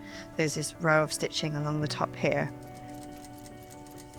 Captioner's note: none